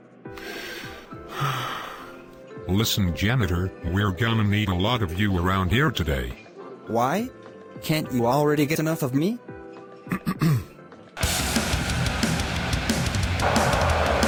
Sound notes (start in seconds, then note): 0.4 sighing; 10.0 clearing throat; 11.2 heavy metal music; 11.2 irrational crowd noises